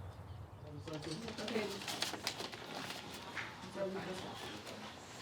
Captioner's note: overlapping chatter